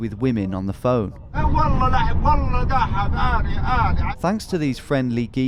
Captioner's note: man speaking in Arabic